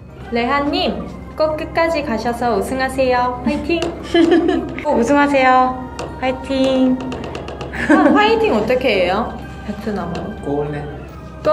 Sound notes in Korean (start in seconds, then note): 4.0 웃음; 7.7 웃음